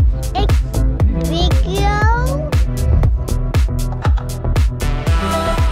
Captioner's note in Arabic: التحدث بلغة أجنبية; موسيقى مبهجة